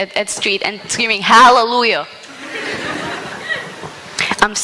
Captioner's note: laughter